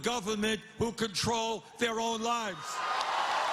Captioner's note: cheers and applause